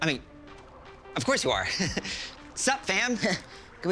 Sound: chuckles nervously

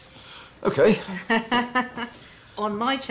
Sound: chuckles

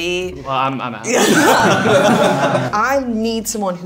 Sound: group laughing

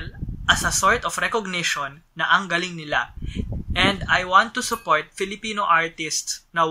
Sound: mix of English and Filipino

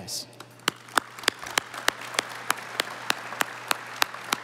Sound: audience applauding

